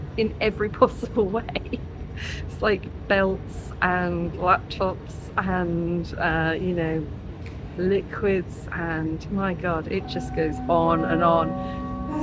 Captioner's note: laughing